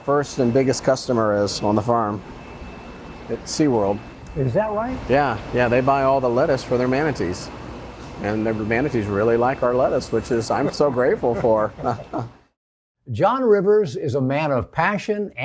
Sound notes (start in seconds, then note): 10.4 both laugh